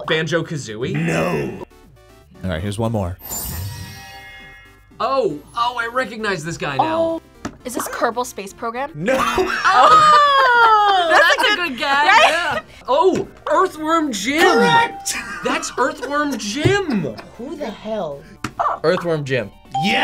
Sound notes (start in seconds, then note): 9.0 laughs; 18.5 buzzer barks